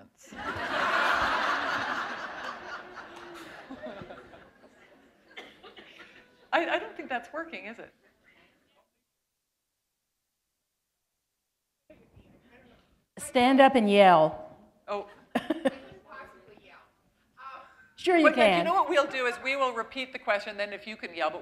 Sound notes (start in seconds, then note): 1.8 laughter; 11.4 pause